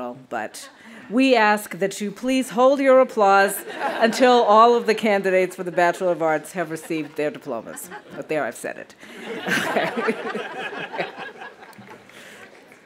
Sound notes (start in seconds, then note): 9.0 audience laughing; 9.1 laughs